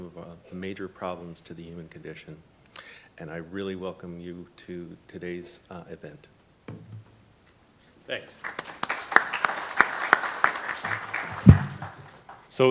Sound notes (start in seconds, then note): 8.4 audience clapping; 8.4 clapping